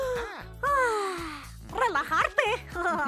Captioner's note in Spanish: Kori inhala; Kori exhala